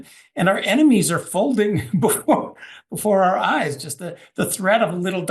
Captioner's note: laugh